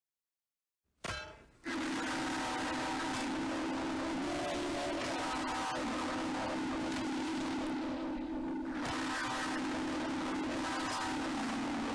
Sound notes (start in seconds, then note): 1.6 continuous loud & terribly distorted static